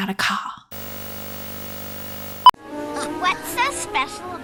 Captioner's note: television static